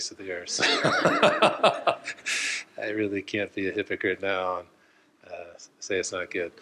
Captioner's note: laughs